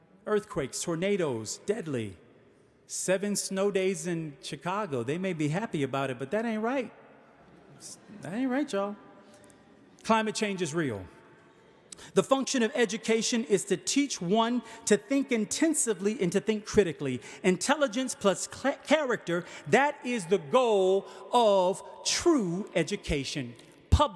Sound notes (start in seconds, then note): 7.3 audience chuckling